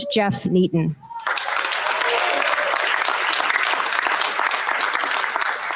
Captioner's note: cheers, applause